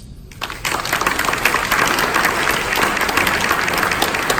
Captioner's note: audience applause